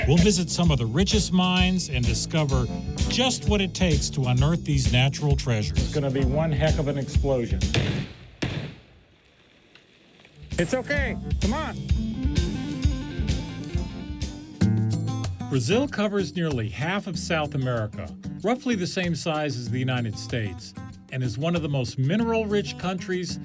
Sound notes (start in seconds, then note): 7.7 explosion